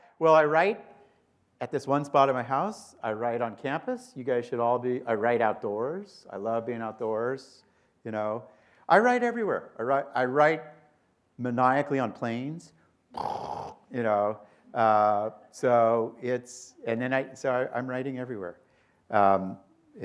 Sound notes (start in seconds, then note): 13.1 blows raspberry